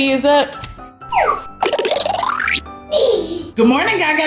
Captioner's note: cartoony blooping; Gaga Baby laughing